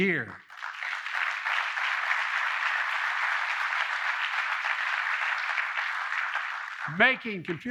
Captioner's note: applause